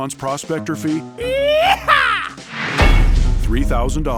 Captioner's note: exciting sound